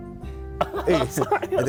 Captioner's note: laughs